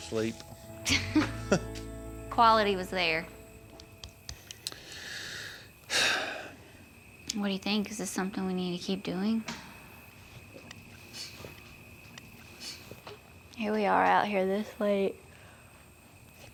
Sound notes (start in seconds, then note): 0.8 both chuckle; 5.9 sighs deeply; 9.6 crickets chirping